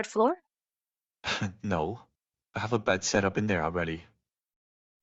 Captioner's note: chuckle